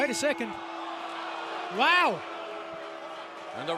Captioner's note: bell ringing